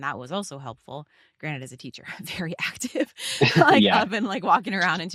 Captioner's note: laughs; chuckling